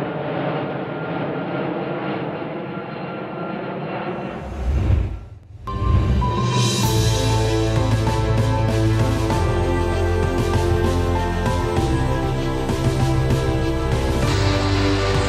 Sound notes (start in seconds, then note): 0.9 plane engine roaring; 4.2 air whooshing; 7.9 dramatic music